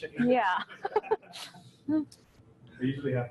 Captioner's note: laughs